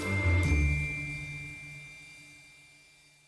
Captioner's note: bell dinging